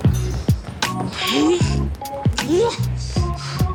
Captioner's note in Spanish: Gruñido